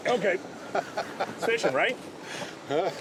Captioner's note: laughter